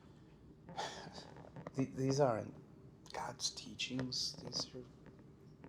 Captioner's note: scoffing